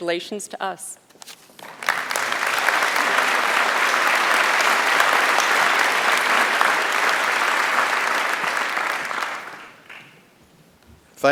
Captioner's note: applause